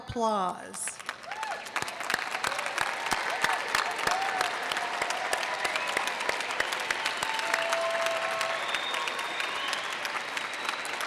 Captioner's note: audience cheers and applause